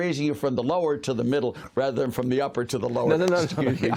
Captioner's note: laughter